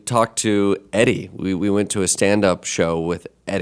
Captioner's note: none